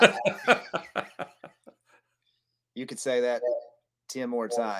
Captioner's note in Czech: Smích